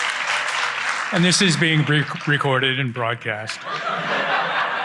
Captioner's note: laughter